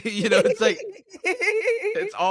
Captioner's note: laughing